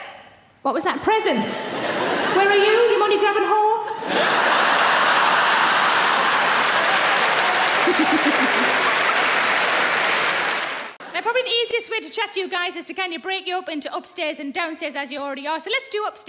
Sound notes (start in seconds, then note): 3.9 audience laughing; 4.4 audience clapping